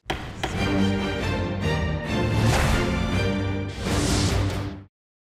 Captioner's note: mallet thudding; bright music